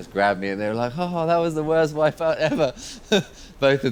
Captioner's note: laughs